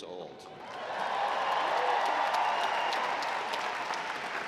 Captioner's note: audience applauding